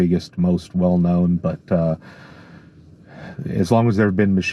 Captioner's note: heavy sighing